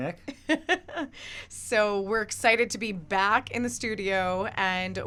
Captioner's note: laughs